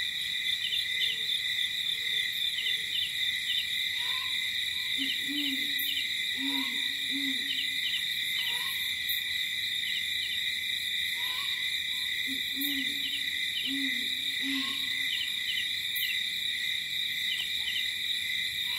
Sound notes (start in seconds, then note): 2.0 crickets chirping; 8.4 light jungle ambience